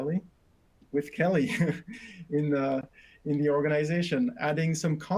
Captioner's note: chuckles